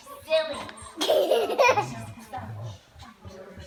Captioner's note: giggling